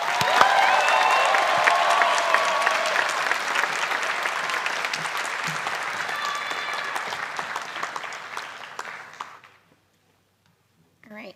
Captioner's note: applause